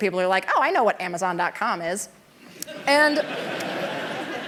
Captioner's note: laughter